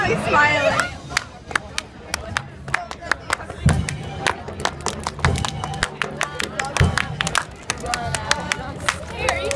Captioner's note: clapping rhythms